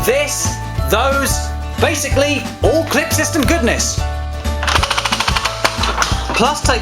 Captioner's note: Nerf Magstrike firing